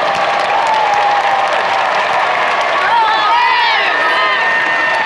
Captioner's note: crowd cheering